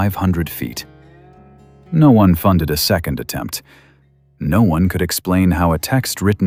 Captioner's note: breath